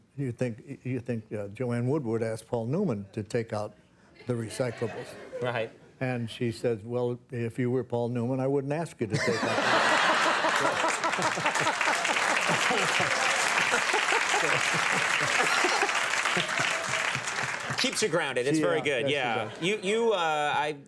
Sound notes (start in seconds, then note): 10.1 audience and Conan laughing; 13.1 audience applauding